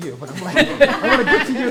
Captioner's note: audience laughing